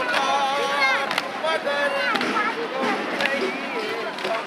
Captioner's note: chanting